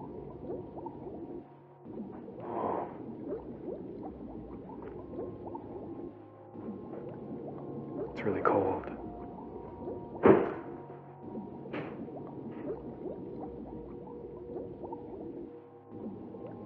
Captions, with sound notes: oh... it's really cold [ crash ]